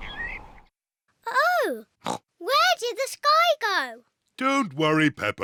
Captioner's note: oinks